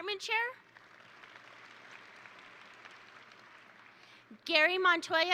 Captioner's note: attendees applaud